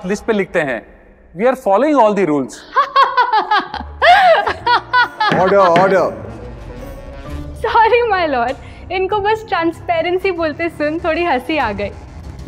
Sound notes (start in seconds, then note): 2.6 laughing